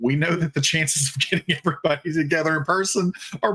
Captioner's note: laughing